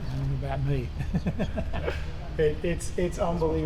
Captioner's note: Richard laughing